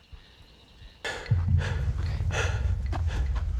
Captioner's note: panting